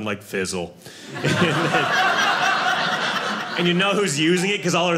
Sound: audience laughing

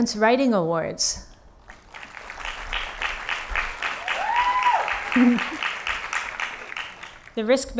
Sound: applause

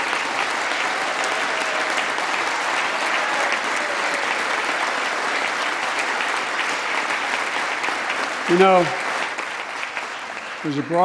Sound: applause

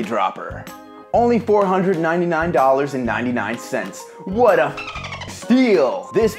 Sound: dolphin sounds

